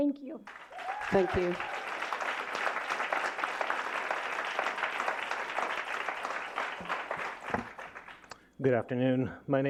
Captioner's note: applause